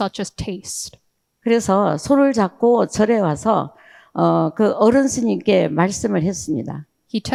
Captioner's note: speaking in foreign language